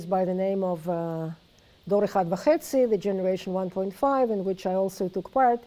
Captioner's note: non-english speech